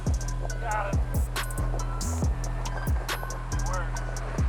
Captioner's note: wind blowing